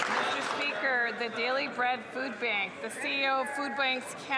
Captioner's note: some Applause